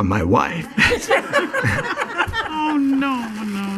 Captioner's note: laughing